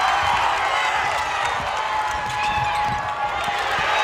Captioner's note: crowd cheers